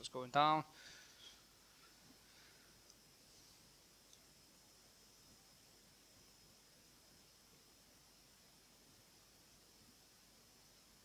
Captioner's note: silence